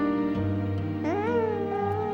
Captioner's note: baby cooing